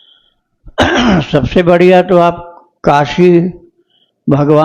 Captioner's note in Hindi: गला साफ़ करने की आवाज़